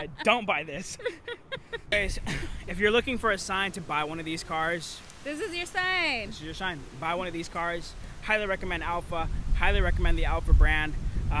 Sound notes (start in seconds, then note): 0.7 laughing